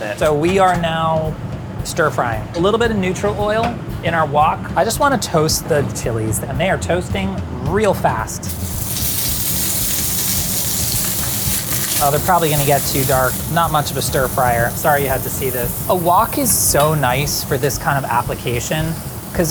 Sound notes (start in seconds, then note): 8.8 chilies sizzling